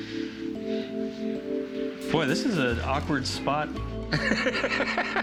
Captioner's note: laughs